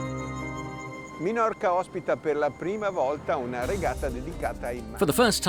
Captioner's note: speaking foreign language